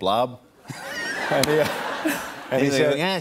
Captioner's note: laughter